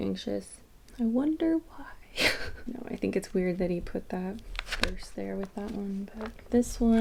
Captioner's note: laughs